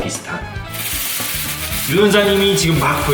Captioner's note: rustling sound